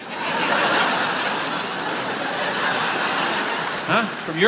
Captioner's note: audience laughs